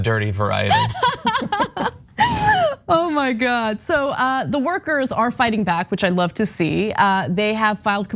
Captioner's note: laugh